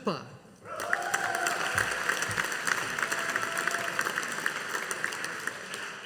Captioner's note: audience applauding